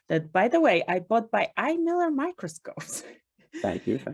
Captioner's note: chuckles